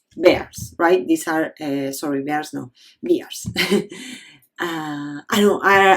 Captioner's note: chuckles